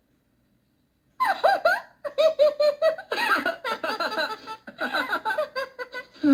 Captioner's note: laughter